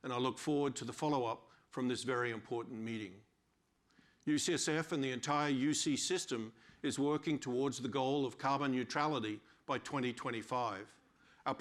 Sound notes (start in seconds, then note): none